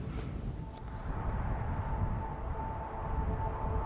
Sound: air whooshing

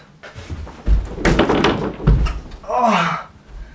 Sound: door clank; thump; groan

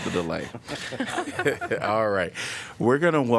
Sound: laughter

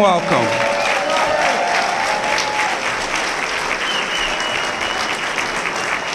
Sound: applause

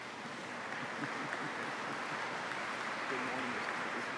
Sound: applause

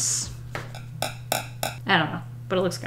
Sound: taps pencil on desk

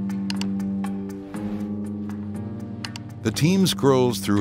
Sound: keyboard clicking

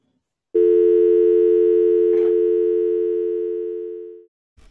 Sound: dial tone

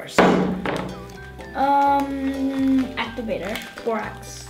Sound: thumping

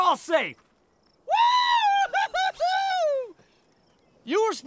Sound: Ricky cheering

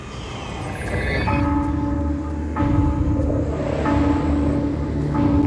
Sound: bell tolling softly

